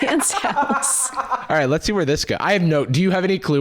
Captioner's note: laughter